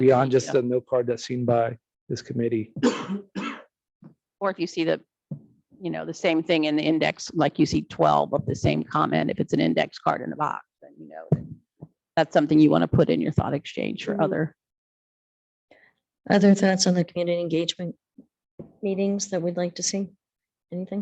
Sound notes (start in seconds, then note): 2.8 coughs